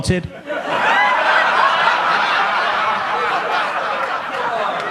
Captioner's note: audience laughs